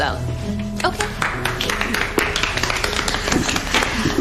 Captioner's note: Aplauze